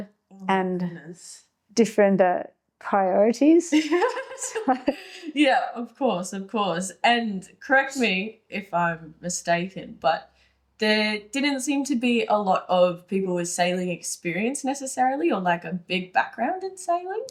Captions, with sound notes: and different priorities. (laughing) Yeah, of course, of course. And correct me if I'm mistaken, but there didn't seem to be a lot of people with sailing experience necessarily or like a big background in sailing.